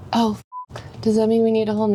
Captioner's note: beep